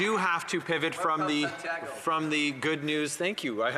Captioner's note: some Applause